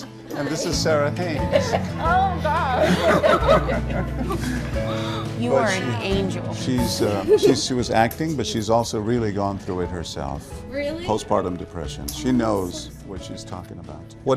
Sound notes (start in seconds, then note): 2.7 everyone laughing